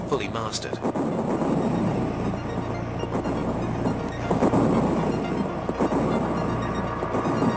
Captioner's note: tense uneasy music; heavy artillery booming